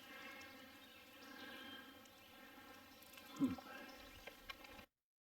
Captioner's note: birds chirping